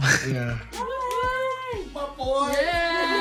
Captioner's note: mom cheering